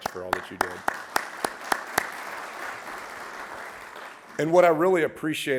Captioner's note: audience applauding